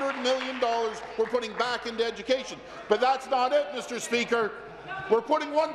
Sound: applause

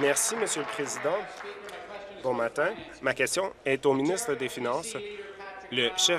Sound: applause

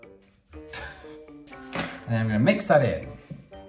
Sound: chuckling

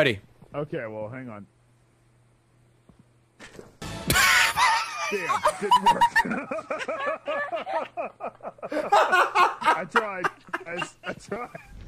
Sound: laughs

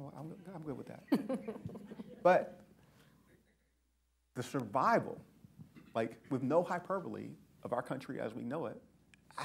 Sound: laughter

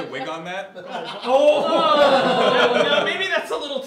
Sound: "Ohhh"s from the room

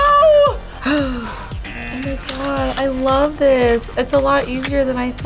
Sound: buzzer rings

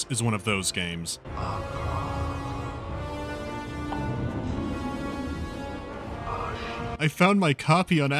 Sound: ominous whispering

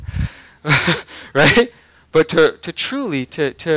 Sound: laughing

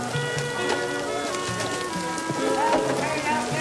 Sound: rain pouring

